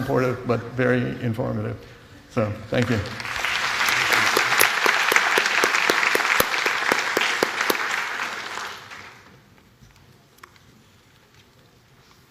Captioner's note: applause